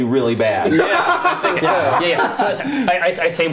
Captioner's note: laughter